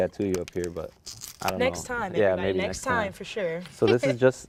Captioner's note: laughs